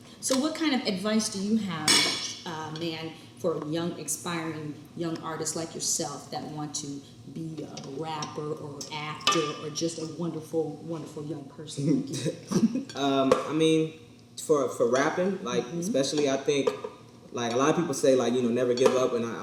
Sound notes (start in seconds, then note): 12.1 chuckles